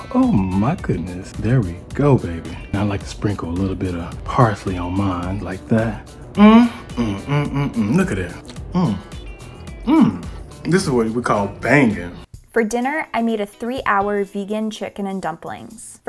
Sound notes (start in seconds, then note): 4.6 moaning